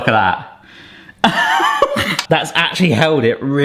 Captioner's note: laughing